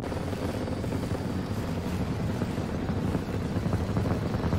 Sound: intense Static

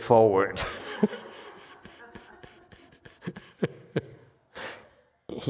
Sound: laughs

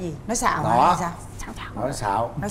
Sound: whispering

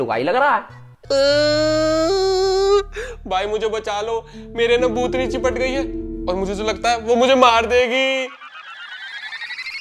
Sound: crying

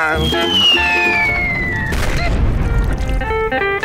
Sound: thudding

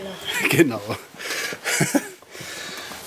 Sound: laughs

